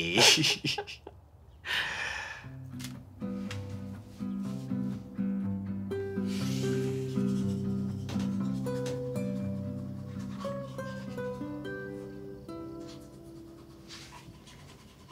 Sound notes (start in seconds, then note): 0.1 both chuckle; 2.6 warm acoustic guitar music; 6.6 toothbrush brushes